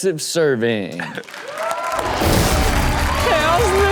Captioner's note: audience cheering and applauding